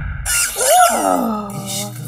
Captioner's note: Squeaks